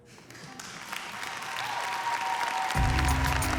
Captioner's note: audience cheers, applauds